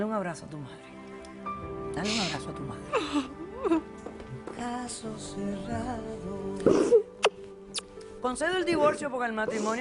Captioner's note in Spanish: Sollozos